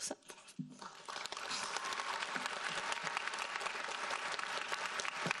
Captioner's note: audience applauds